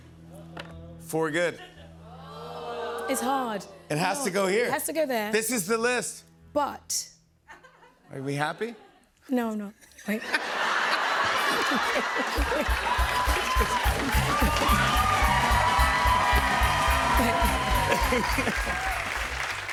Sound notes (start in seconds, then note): 2.2 audience ohhs; 9.8 laughter; 13.7 cheers and applause